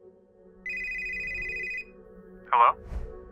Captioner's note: phone ringing